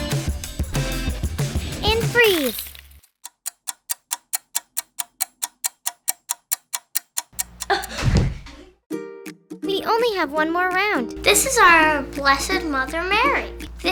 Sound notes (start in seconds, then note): 3.2 clock ticking; 7.6 child gasping